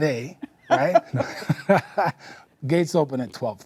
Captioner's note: laughs